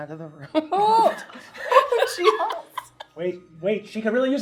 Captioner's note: laughing